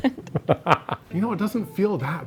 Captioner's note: laughing